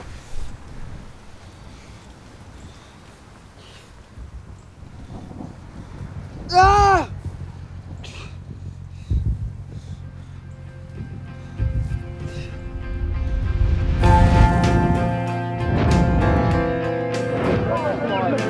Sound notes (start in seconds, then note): 6.4 Tommy screaming; 10.3 somber music